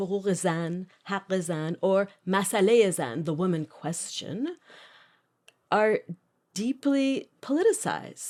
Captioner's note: non-English language spoken